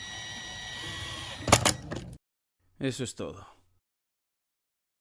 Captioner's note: Se oye el taladro